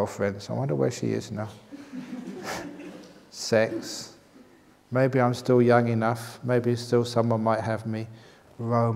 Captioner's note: laughs